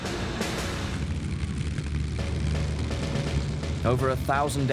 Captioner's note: plane engine revving